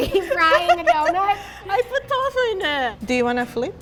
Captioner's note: laughing